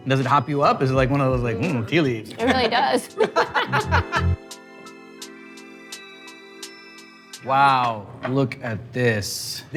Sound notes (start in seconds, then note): 3.1 laughs; 4.9 chill music